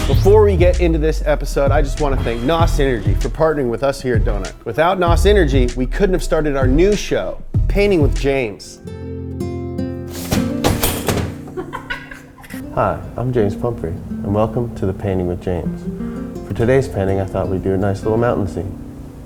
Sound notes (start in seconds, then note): 9.3 calm music; 10.1 crashing; 11.4 woman laughing